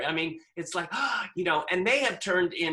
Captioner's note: gasps